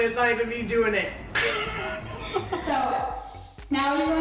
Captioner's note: laughing